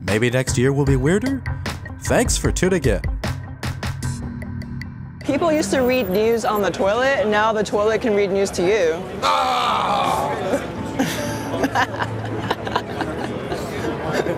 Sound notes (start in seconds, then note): 9.2 groaning; 11.0 laughing